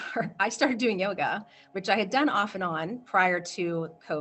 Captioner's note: chuckles